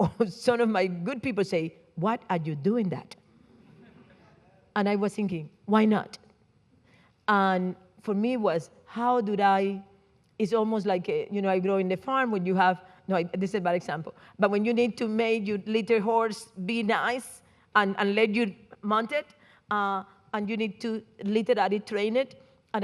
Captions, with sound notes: or some of my good people say, "What are you doing that?" (audience laughing) And I was thinking, "Why not?" And for me it was how did I, it's almost like a, you know, I grow in the farm when you have, no, this is a bad example, but when you need to make your little horse be nice and let you mount it and you need to literally train it.